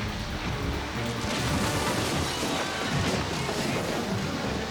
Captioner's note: dramatic music; roof breaking